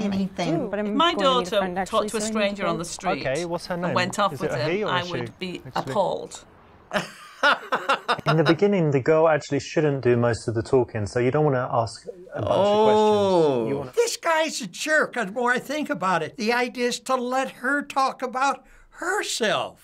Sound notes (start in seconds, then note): 6.9 laughs